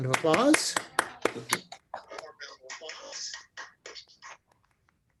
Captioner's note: applauding